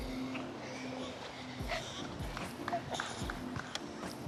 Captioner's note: kids panting